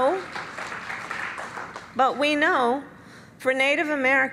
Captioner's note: applause